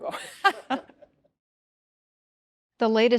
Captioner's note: laughs